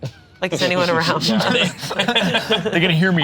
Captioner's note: group laughs